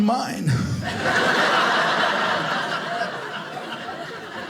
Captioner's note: audience laughing